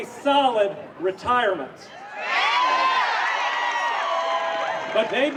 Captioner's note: cheering